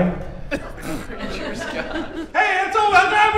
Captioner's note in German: lachen